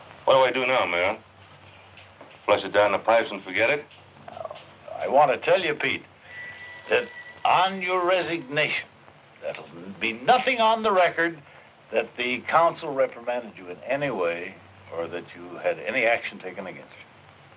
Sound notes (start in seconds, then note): none